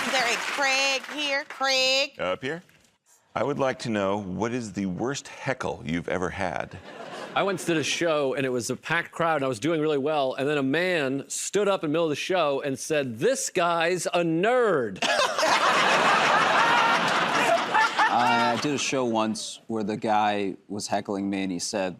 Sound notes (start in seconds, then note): 6.7 laughter; 15.0 laughter; 16.6 applause